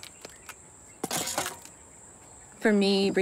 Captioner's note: machete clangs